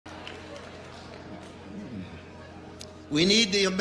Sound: crowd applauds

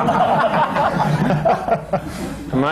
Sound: laughter

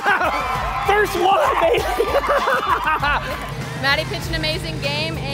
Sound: laughing

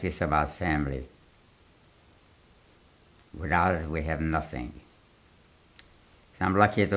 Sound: pauses for 3 seconds

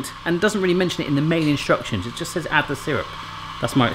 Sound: none

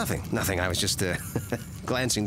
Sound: laughing

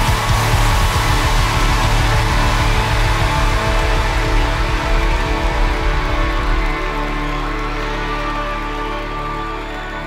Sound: cheering

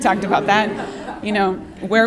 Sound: laughter

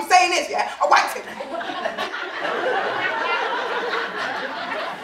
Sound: audience laughing

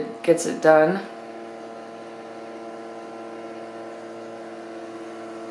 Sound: motor whirring

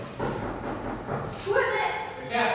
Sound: knocking

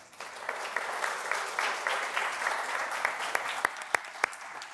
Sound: audience applauds

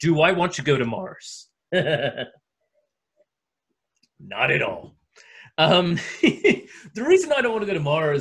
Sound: chuckles

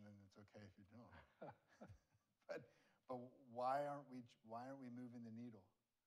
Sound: laughs

